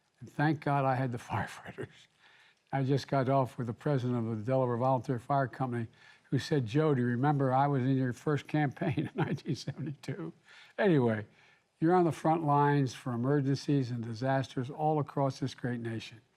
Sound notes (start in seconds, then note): 8.9 laughs